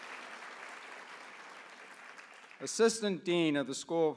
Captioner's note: applause